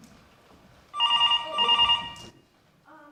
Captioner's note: phone rings